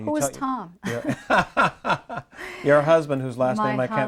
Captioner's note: both laughing